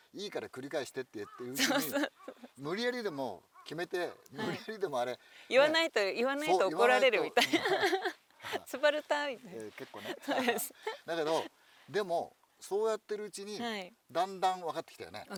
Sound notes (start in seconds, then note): 9.8 laughs